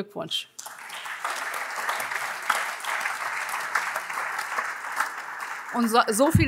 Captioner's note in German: Beifall AfD und vereinzelt andere Fraktionen